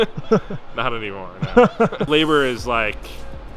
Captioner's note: laughing